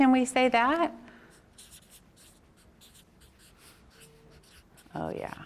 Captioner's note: marker scribbles